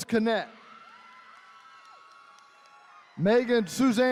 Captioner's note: attendees cheering